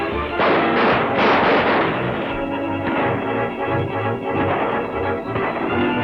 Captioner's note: frenzied music; guns fire repeatedly